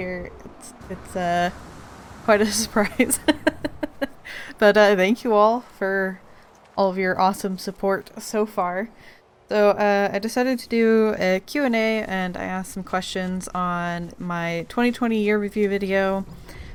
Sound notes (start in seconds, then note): 2.4 laughs